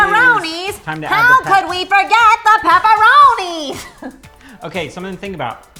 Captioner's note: laughs